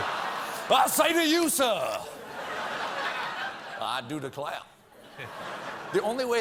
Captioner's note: in a southern accent